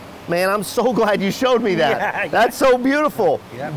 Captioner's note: both laugh